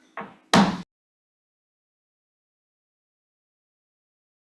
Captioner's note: gavel pounds